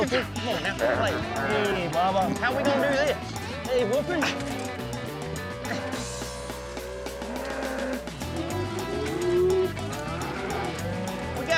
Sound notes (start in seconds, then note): 0.0 mooing; 3.6 grunting; 7.6 mooing